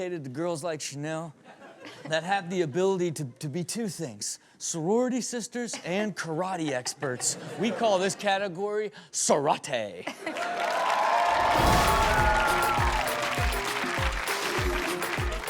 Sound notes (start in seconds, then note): 10.2 audience cheering and clapping; 11.5 upbeat music